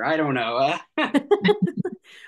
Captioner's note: laughs